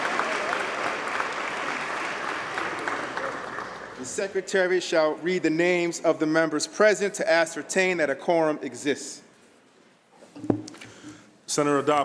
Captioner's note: applause